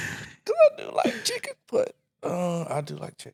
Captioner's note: laughing